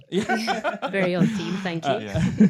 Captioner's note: both laughing